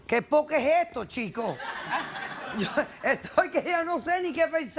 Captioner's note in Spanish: Risas